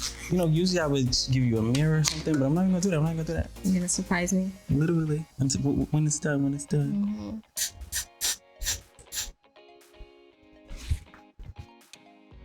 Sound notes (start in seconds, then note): 7.5 spraying